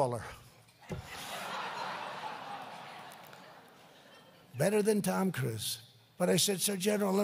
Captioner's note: laughter